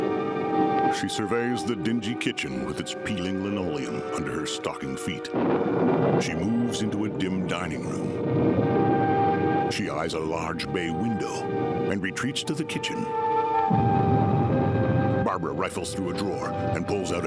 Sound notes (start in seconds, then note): 4.6 thunder rumbling